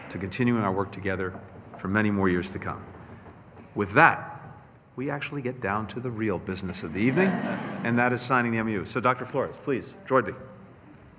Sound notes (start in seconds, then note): 6.9 laughter